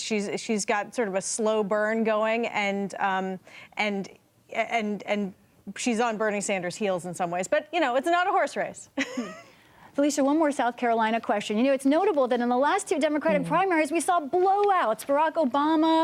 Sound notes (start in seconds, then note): 8.9 laughter